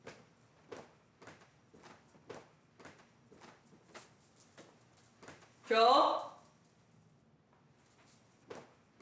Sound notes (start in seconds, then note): 1.0 stairs creaking